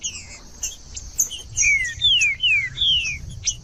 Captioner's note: trinca ferro cantando